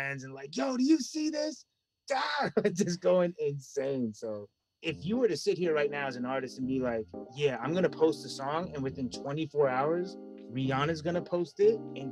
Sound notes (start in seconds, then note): 2.2 screams